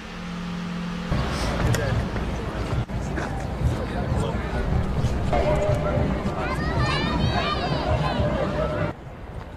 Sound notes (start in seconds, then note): 4.1 distant chatter